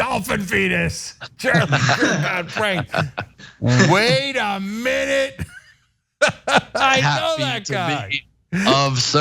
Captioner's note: laugh